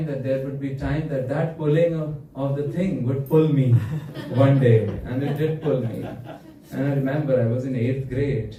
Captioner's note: laughter